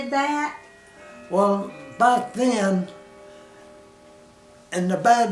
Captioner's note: clock chimes